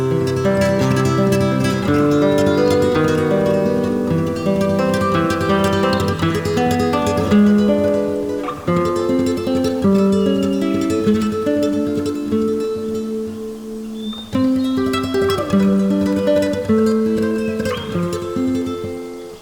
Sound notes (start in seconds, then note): 2.8 light breeze and birds